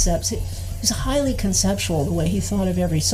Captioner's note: none